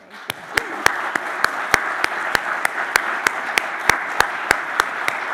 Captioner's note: audience applauding